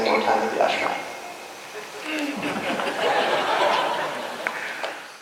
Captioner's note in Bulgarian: смях